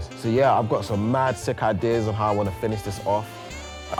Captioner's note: none